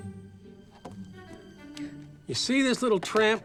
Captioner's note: remote clicks